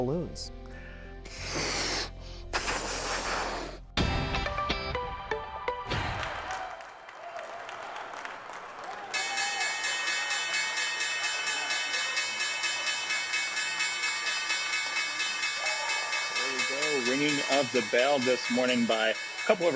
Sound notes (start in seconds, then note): 6.0 applause; 10.9 bell ringing